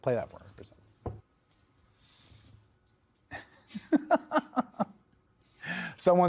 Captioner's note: laughing